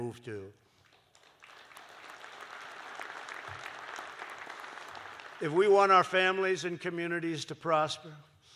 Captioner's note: applause